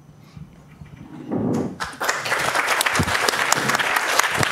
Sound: applause

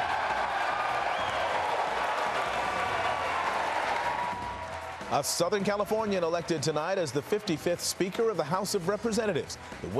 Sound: cheers

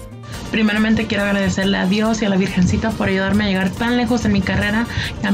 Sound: speaks in foreign language

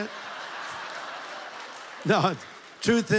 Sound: audience laughs

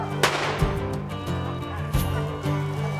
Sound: gunshot cracks; upbeat country music

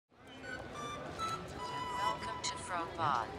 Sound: indistinct chatter

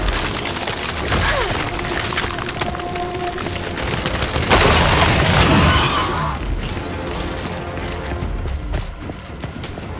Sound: gunshots

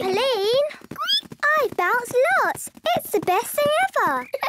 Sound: squeaks; giggles

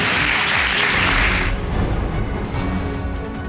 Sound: applause

